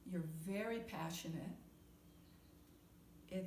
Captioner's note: none